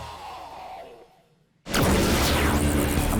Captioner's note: sound effects